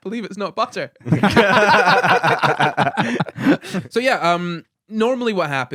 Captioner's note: laughing